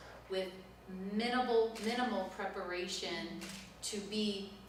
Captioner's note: none